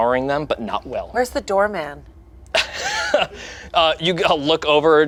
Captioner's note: laughs